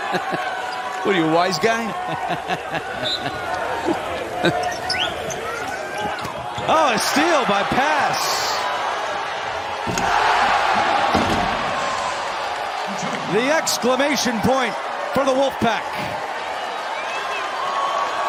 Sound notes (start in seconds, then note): 1.9 laughter